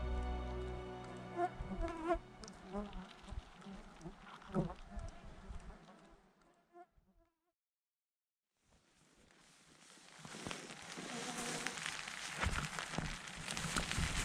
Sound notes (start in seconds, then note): 1.9 buzzing; 10.8 tent rattling, rain